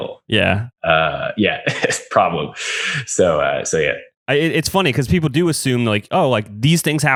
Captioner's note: laughs